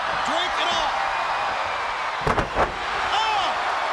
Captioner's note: crowd cheering